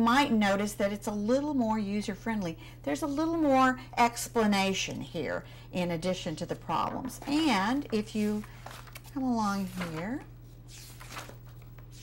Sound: turning pages

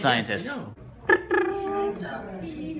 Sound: triumphant lip-buzzing sound

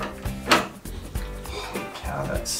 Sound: door unlocking

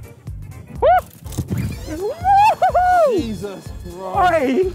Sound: whoops loudly

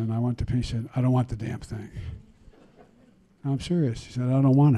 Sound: laughter

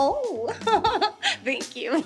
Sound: Maha giggling

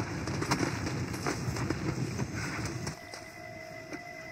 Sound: sigh of breath

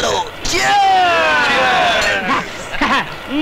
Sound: glass clinks

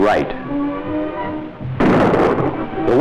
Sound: gunshot

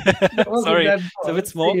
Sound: laughs

